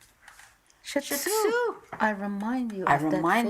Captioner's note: speaks in another language